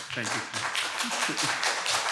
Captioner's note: applause